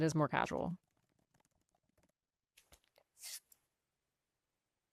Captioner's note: key caps clacking